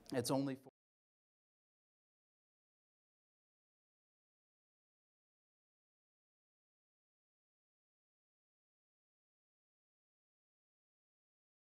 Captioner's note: sound cuts out